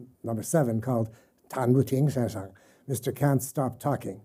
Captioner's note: speaking chinese